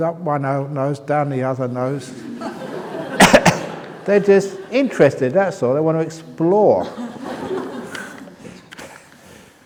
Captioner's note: laughs; laughter